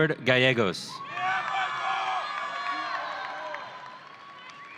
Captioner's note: audience cheering